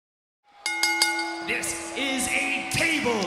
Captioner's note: bell ringing